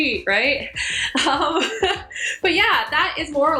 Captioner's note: laughs